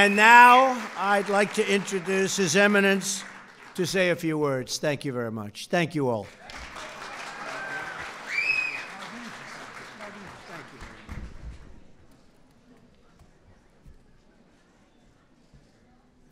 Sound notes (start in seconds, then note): 6.0 applause